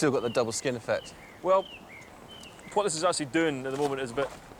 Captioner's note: bird sings